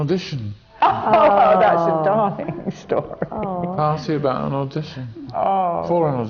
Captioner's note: laughs